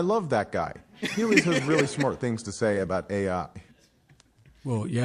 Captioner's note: laughter